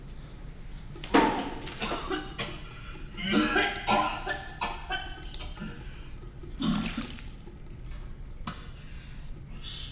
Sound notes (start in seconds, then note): 2.5 french vomiting; 2.5 vomit splashes